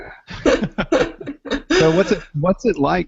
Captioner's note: laughing